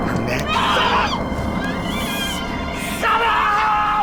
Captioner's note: Jenny screams